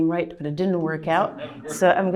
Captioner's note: laughter